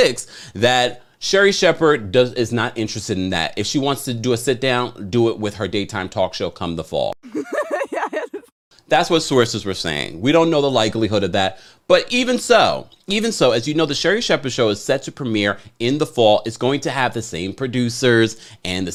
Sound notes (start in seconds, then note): 7.2 woman laughing